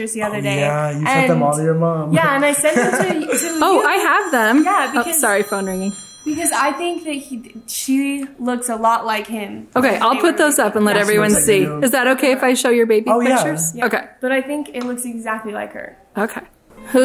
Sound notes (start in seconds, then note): 2.9 phone rings